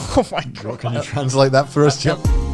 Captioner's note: laughing